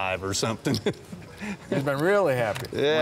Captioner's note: chuckling